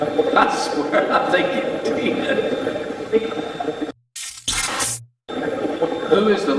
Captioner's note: chuckles